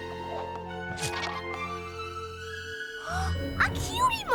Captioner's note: gasps